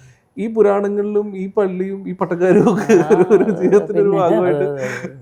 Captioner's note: laughing